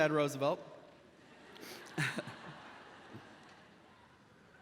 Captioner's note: audience laughs